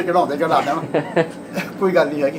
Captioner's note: laughs